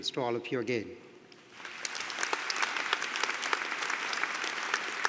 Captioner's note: applause